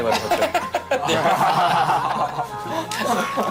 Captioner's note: hahaha